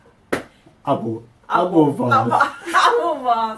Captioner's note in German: Aus dem Off